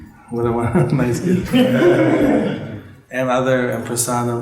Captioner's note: laughter